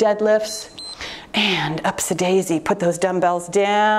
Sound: timer beeps

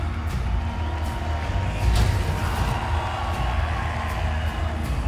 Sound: cheering gets louder

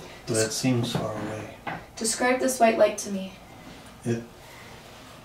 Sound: none

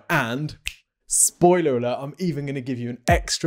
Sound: fingers click

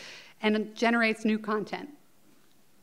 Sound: none

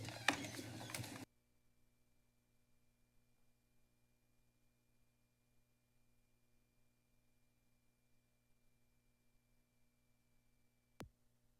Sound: silence

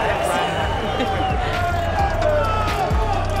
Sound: laughs

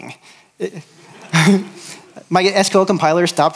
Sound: laughter

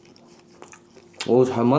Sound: smacking

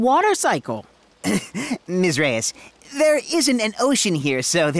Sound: chuckles

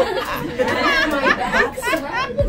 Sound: laughing

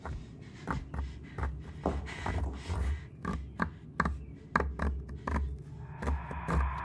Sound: wood scratches

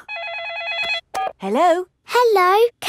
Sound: phone rings

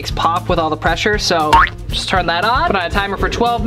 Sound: boing

